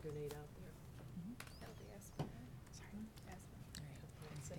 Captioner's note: whispering